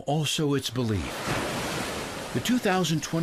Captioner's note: wave crashes